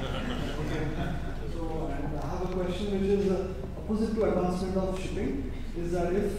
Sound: laugh

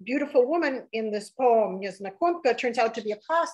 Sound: speaking russian

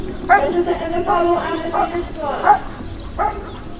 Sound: loudspeaker

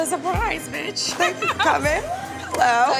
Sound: laughs

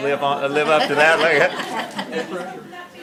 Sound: laughter

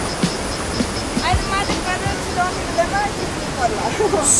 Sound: indistinct conversation

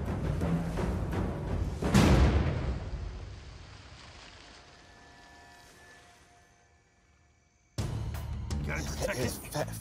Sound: gun shot

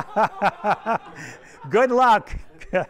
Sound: everyone laughs

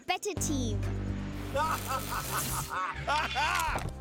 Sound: evil laughter

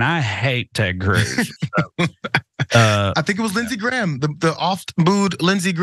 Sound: laugh

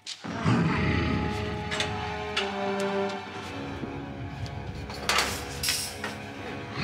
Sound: dramatic music; Donald growls

